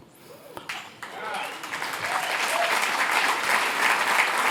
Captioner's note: applause